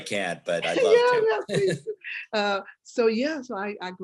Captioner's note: laughing